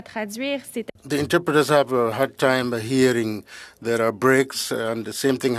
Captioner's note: speaking French